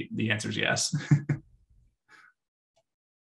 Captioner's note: laughs